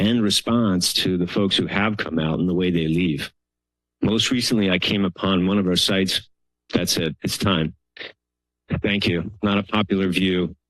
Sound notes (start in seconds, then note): none